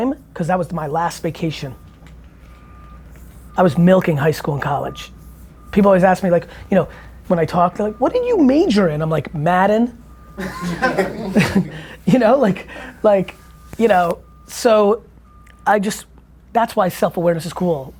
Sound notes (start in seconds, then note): 10.3 group laughter